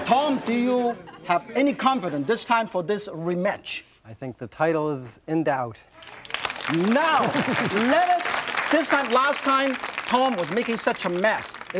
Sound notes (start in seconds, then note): 5.9 audience claps